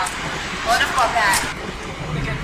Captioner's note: thunder cracks